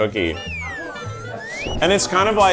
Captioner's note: slide whistle